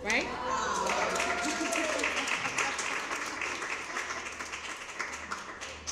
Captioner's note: crowd; cheering and applause